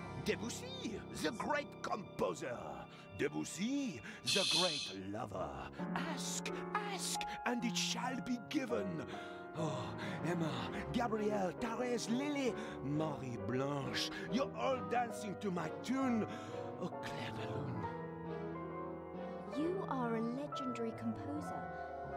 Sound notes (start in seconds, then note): 4.1 laughs softly